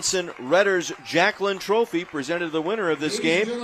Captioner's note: applause